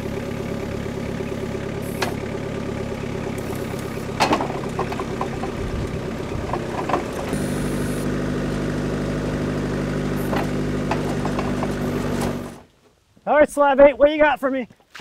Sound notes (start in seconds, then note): 4.1 wood slab thuds